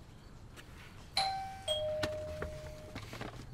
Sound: doorbell

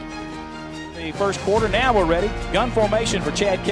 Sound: voiceover

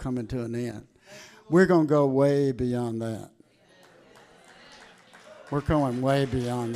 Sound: congregation cheering

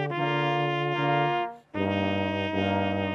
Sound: none

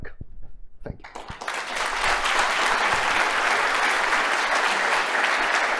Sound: applause

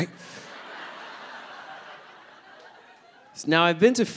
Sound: audience laughing

